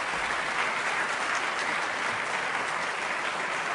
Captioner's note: applause